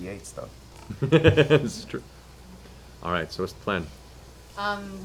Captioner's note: laughs